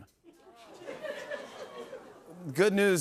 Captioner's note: audience groans